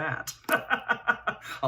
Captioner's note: laughs